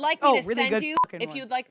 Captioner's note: beep